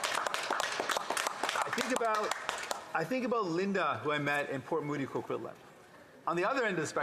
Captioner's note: some Applause